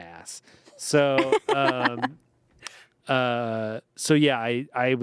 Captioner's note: everyone laughs